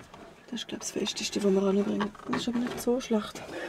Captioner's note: in Swiss German